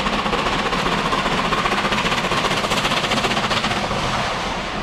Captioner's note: train passes